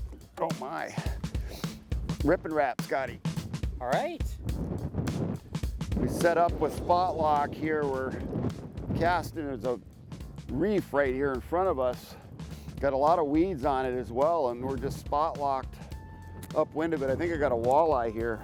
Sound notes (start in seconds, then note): 4.6 wind noise